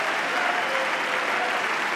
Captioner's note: applause